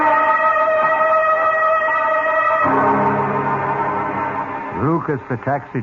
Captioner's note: sirens